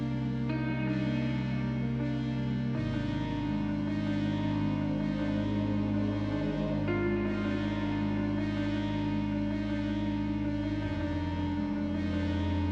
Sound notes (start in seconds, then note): none